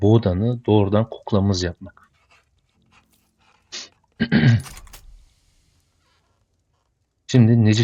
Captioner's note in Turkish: öksürme; boğazını temizler